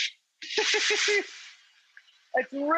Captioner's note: Rachael laughs; man laughs